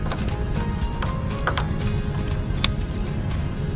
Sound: sparking

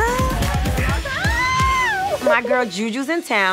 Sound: shrieks

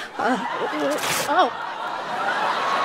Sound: fabric tearing; audience cheering

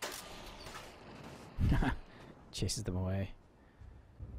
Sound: chuckling

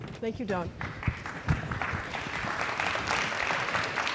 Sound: applause

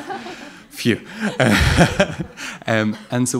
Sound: sighs and laughs

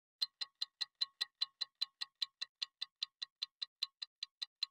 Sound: clock Ticking

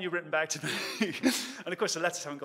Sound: laughs

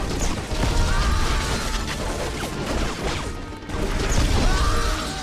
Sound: explosions rumbling

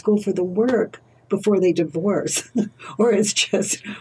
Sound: laughs

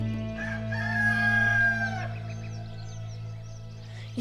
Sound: rooster calls

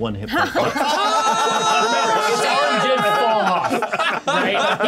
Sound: all clamoring

